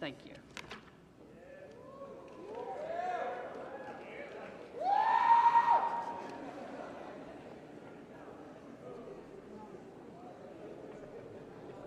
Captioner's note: cheering